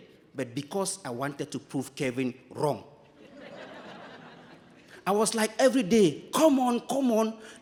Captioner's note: audience laughing